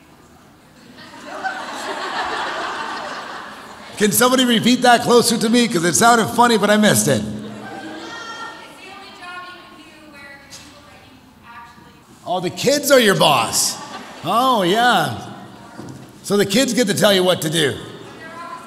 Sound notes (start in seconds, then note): 0.9 audience laughs